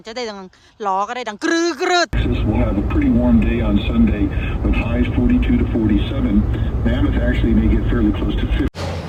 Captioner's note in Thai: เสียงจากวิทยุ